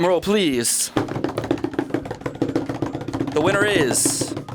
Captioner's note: imitating drum roll